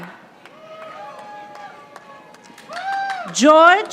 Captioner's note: audience applauding